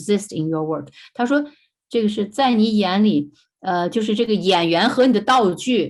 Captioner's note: speaking in foreign language